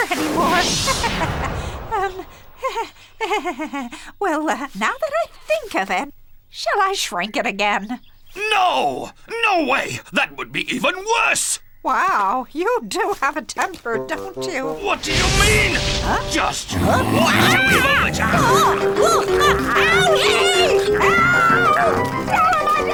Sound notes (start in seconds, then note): 0.9 chuckling; 16.4 roaring; 16.7 screaming